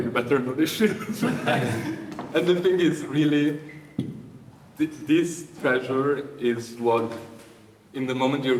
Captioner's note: audience laughing